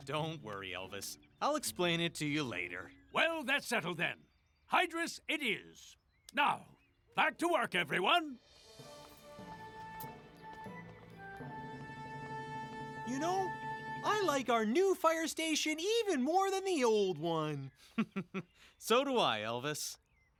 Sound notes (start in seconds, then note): 17.8 chuckling